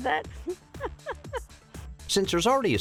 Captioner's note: laughs